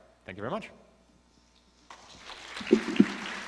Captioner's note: applause